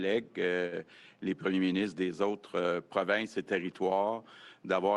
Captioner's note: speaks French